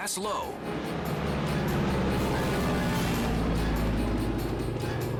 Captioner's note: engines roar